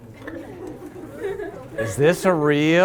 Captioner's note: laughter